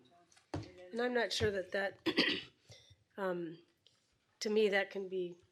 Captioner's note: clearing throat